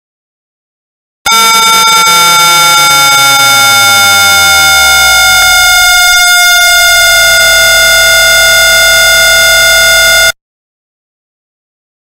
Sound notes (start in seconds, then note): 1.3 sound of horror beep